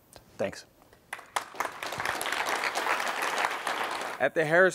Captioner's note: applause